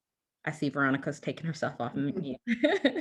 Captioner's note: laughs